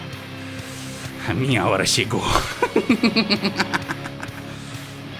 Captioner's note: laugh